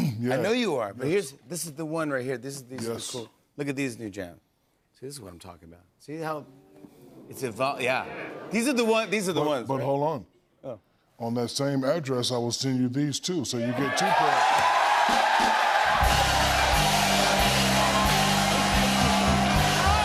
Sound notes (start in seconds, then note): 13.6 cheers and applause